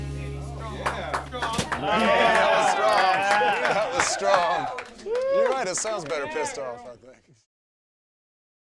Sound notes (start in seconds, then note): 0.6 people cheering